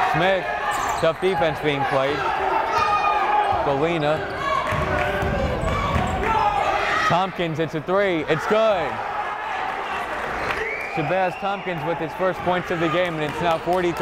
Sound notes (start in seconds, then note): 3.2 yelling; 6.7 yelling; 10.1 cheering; 10.4 clapping